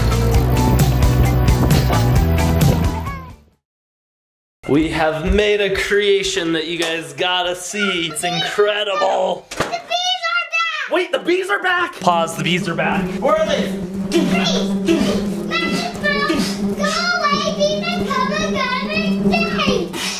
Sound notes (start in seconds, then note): 12.0 whooshing sounds; 12.6 screaming playfully